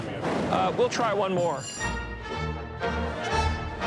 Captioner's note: bell rings